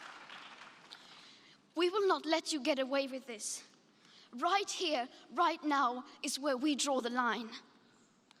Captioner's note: applause